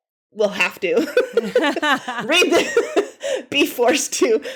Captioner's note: women laughing